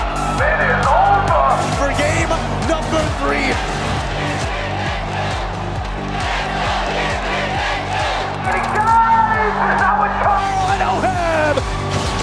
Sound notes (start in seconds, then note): 3.8 crowd chanting